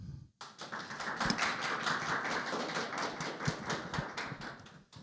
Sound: crowd applauds

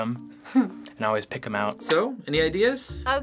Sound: chuckles

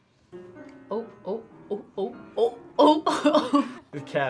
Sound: laughs

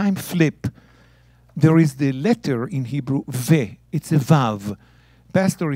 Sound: speaking in Hebrew

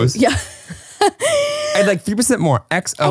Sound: laughs

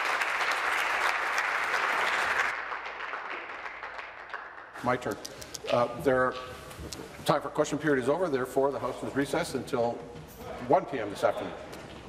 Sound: applause

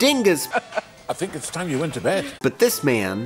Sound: Vernon chuckles

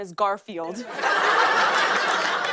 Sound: laughter and applause

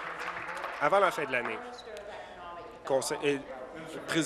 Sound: applause

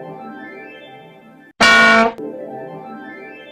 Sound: goofy Aaah Noise

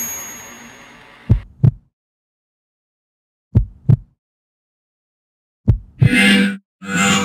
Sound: heartbeat

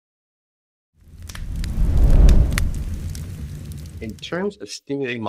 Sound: fire crackling

